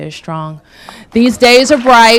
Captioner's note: applause